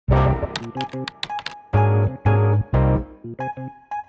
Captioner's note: keyboard noises